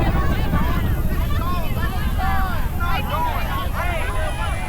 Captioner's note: crowd chatter